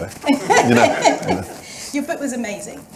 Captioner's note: audience laughing